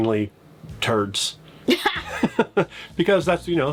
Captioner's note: both laughing